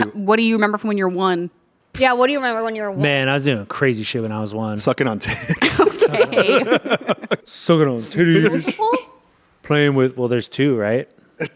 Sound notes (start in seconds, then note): 5.3 everyone laughs; 11.4 laughs